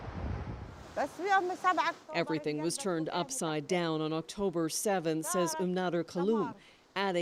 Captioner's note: speaking alternate language